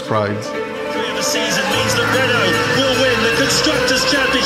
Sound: announcer speaking

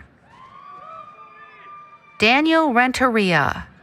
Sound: applause, Cheering

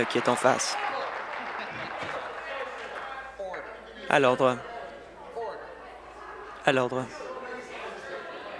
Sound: applause

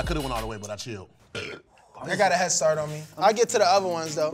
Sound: burps

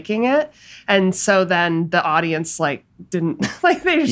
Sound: laughs

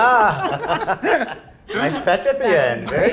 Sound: judges laughing

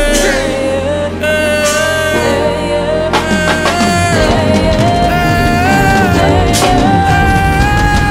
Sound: aww

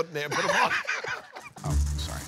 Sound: laughs

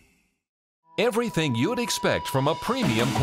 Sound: voiceover

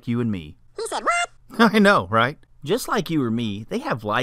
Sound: man's voice

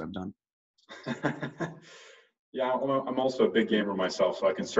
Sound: laughing

